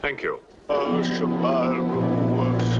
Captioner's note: chanting